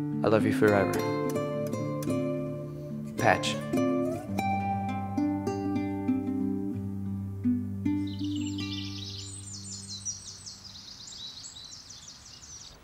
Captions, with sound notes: I love you forever. Patch. (gentle music) (birds chirping)